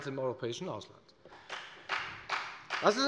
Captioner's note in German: Beifall bei der FDP